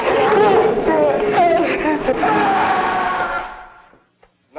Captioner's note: Byron screaming